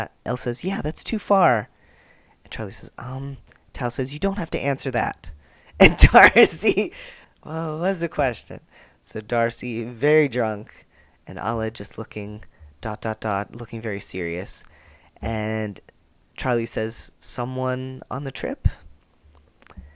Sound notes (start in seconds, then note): 6.6 laughter